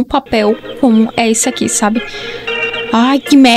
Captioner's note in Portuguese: Alarme do meu celular tocando